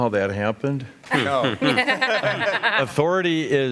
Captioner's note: laughter